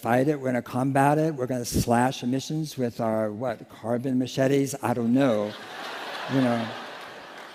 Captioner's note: laughter